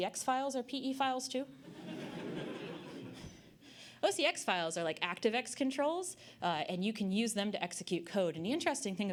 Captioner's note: audience Laughter